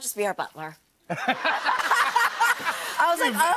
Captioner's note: laughter